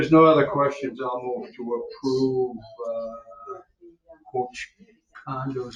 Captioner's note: background chatter